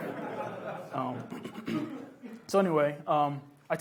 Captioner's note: laughs